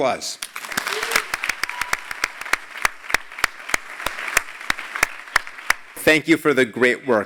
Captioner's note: applause